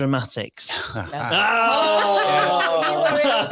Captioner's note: audience exclaiming